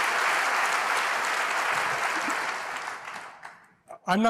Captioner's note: applause